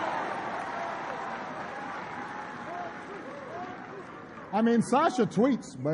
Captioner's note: applause